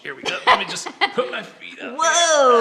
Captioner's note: laughs